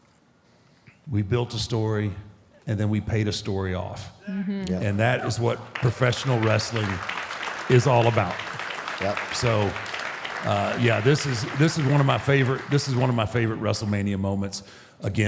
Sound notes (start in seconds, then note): 7.3 audience applauding